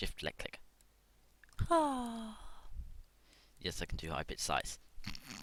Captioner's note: sigh